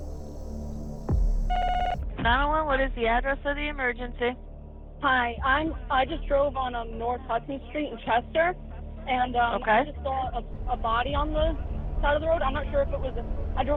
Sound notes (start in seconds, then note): 1.5 phone beeps